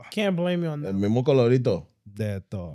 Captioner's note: speaking Foreign Language